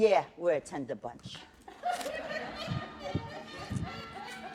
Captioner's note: laughter